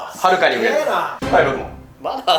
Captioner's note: buzzer sounds